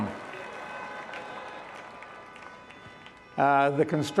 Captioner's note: participants applauding; horns beeping